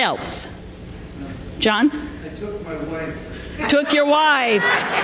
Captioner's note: laughter